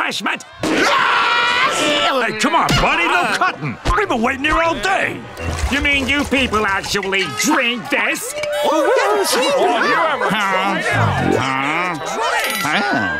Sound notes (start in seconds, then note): 8.0 murmurs in agreement